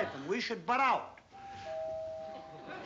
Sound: doorbell

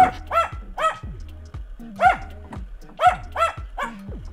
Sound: A dog is barking

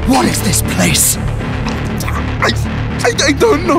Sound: choking

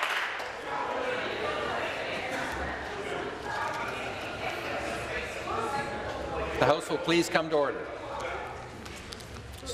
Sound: applause

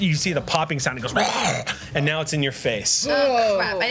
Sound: monster sounds

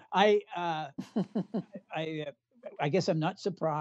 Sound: laughter

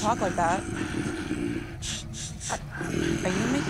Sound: killers grunting

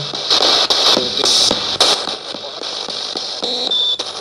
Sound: radio babbles

